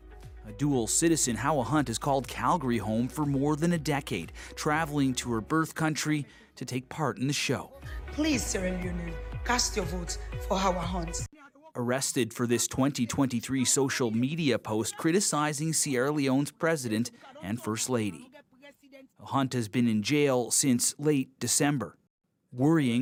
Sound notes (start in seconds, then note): 13.8 speaking alternate language